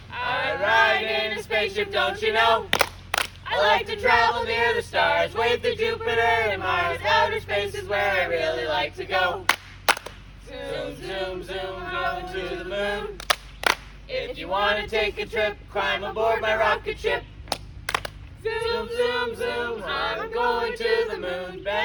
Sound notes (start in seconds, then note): 2.7 clap, clap; 9.4 clap, clap; 13.2 clap, clap; 17.8 clap, clap